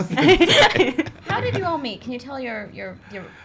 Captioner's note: laughs